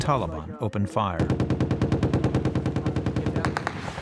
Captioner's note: gunfire